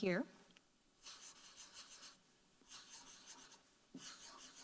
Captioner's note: marker scribbling